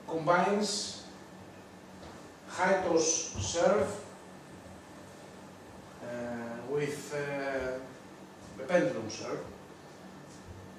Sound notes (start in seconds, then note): none